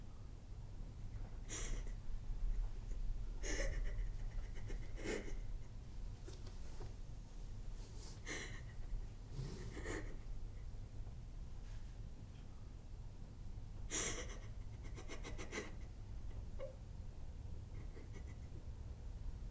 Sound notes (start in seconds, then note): 3.5 Ashley crying